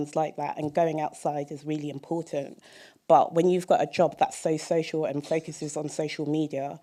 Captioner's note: none